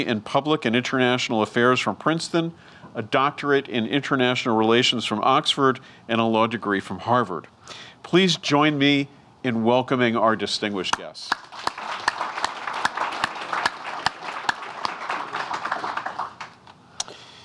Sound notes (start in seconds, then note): 11.3 audience applauding